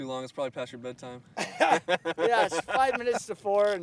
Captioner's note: laughter